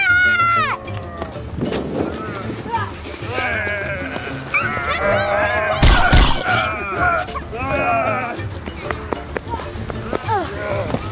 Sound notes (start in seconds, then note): 4.6 groans